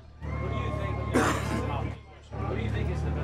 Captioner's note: audience member coughs